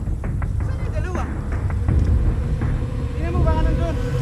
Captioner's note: speaking foreign language; suspenseful music